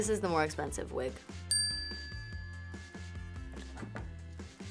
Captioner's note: bell dings